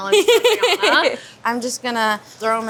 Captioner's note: laughing